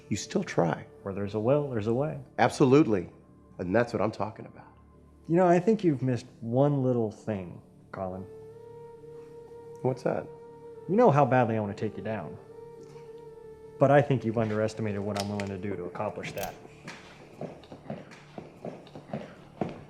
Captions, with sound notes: you still try. - Where there's a will, there's a way. - Absolutely! And that's what I'm talking about. - You know, I think you've missed one little thing, Collin. - What's that? - You know how badly I want to take you down. But, I think you've underestimated what I'm willing to do to accomplish that. (gun clicks) (footsteps)